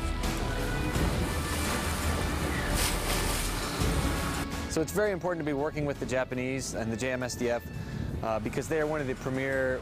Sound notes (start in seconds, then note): 2.8 water splashing